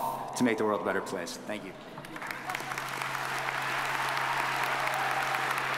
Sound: audience applauding

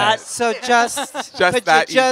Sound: laughter

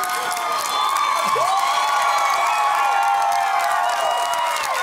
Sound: cheering

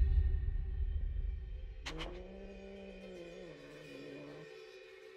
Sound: cat hissing

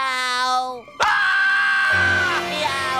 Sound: screaming

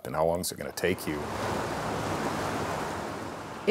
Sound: rapidly flowing river

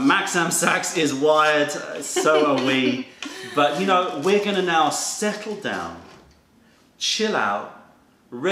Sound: laughter

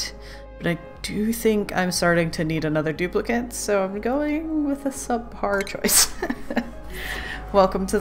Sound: laughs

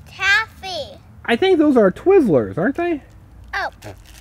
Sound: voiceover

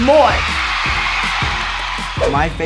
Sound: crowd cheering

